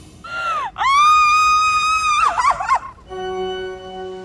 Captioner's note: screams, sobs